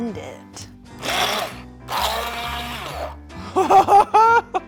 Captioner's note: machine whining; chuckling